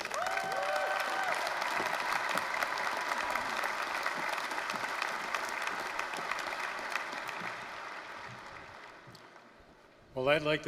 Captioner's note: applause, cheering